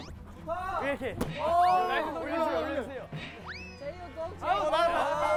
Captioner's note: swoosh~!